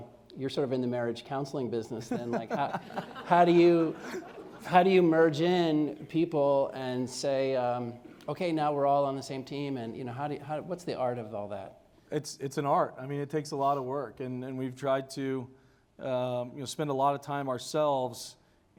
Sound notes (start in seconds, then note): 2.0 laughter